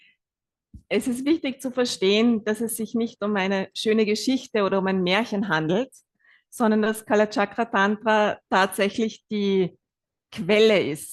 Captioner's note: German live translation